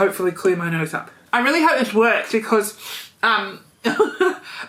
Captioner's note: sniffles; laughs